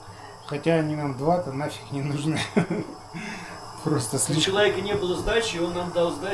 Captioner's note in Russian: смех